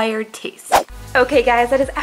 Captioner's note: whooshing